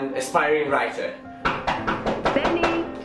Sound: door knocking

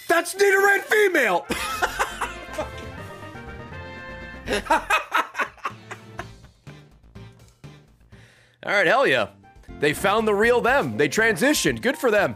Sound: laughs

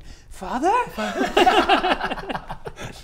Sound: giggles

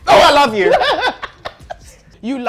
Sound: laughs

